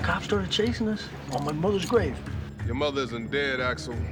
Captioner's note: none